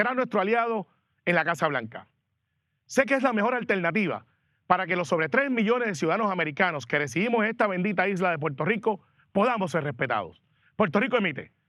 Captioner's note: speaking spanish